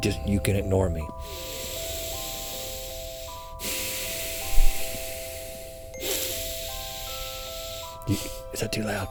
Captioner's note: exaggerated breathing